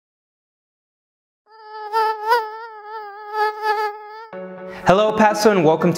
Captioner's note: mosquito buzzing